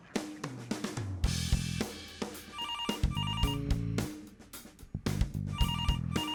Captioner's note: phone ringing; upbeat music